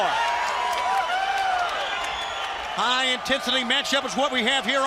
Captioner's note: crowd cheering